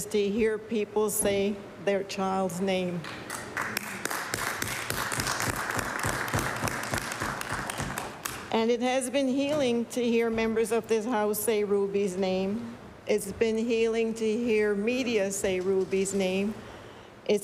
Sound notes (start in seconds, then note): 6.3 applause